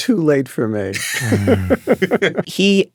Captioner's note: chuckling